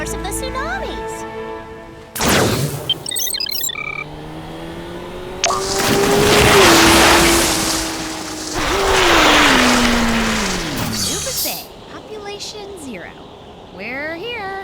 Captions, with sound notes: That must be the source of the tsunamis. [motor revving] Leuba's Bay. Population zero.